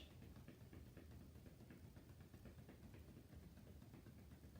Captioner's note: gentle tapping